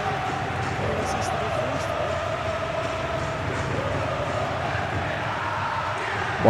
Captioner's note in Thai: ปรบมือ